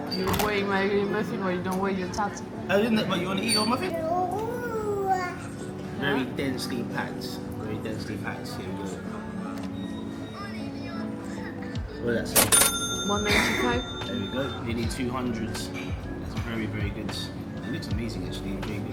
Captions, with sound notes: You don't want to eat my own muffin or you don't want your tattoo. - I didn't eat my own, you want to eat your muffin? (baby babbling) - Very densely packed, very densely packed here. (baby babbling) What did that say? (cash register dings) - One, two, three. - There you go, you need two hundreds. It's very, very good. It looks amazing, it's really good.